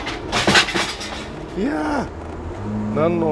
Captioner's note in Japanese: 落下音